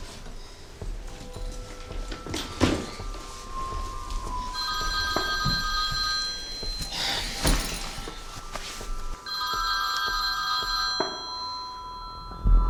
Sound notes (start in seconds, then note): 4.6 telephone ringing; 6.7 object thuds; 7.0 Sally sighs